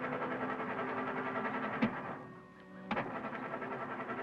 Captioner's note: engine puttering